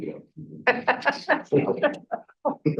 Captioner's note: laughs